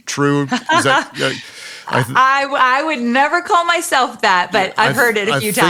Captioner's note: laughs